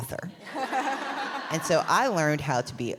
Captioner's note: laughs